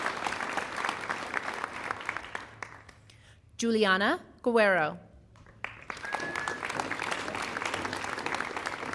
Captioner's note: applause